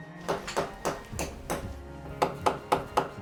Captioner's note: hammering